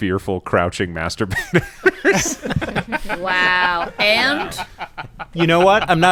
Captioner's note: laughter